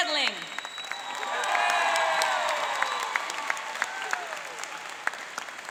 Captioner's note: cheering and applauding